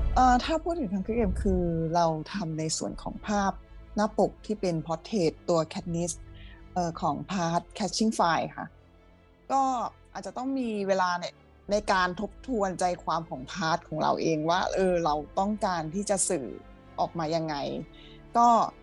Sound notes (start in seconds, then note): 0.8 speaking Thai